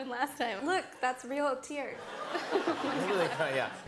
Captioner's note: laughter